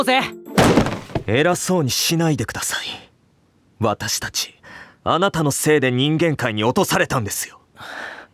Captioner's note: exasperated